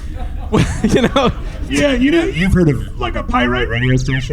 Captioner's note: laughing